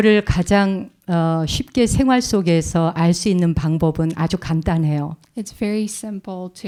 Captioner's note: speaking in Korean